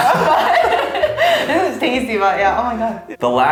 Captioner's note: laugh